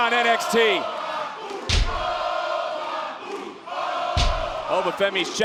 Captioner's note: crowd chants "Oba"